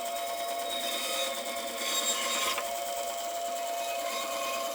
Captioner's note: saw cutting wood